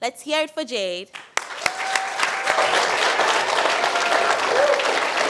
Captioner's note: applause